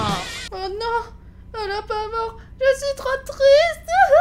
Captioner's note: cries